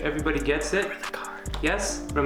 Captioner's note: whispering